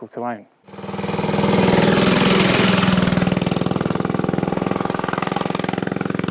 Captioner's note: motorbike engine rattling